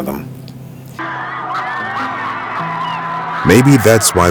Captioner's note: crowd cheers